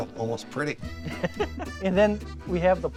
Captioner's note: laughs